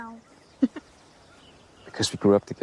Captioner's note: Elizabeth giggles